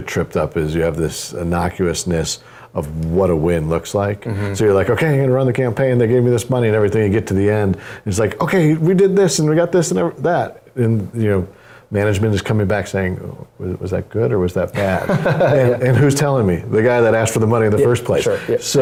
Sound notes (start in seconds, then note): 14.7 laugh